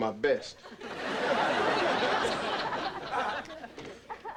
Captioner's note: audience laughing